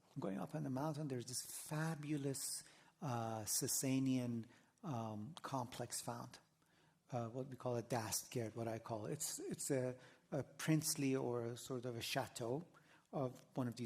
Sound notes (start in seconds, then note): 7.6 non-english